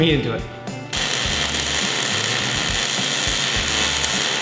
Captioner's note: welding sounds